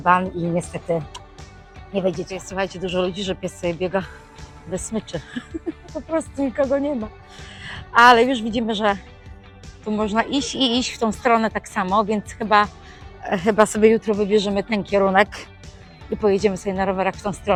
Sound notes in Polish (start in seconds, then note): 5.2 śmiech